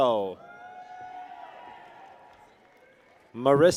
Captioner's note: people cheer